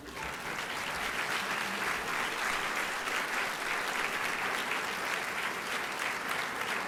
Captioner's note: applause